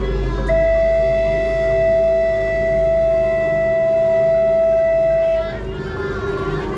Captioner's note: boat whistle blows